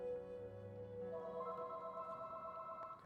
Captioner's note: phone rings